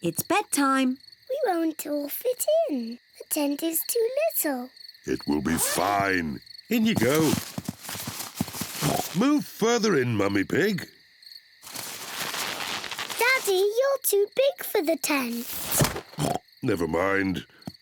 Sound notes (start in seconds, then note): 8.3 oinks; 16.1 oinks